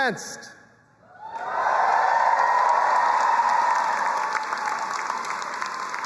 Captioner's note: audience applauding and cheering